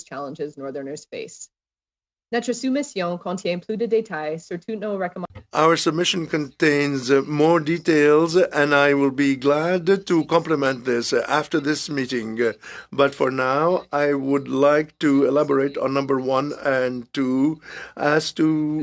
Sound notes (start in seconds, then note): 8.0 speaking in French